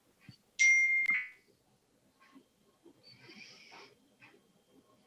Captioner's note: notification bell dings